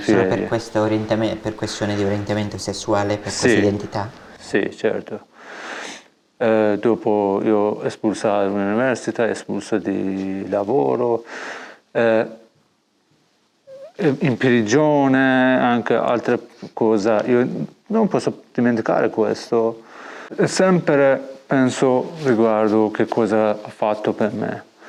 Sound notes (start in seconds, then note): none